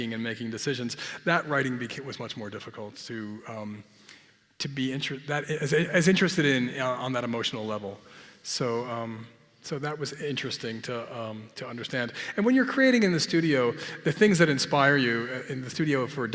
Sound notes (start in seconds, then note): none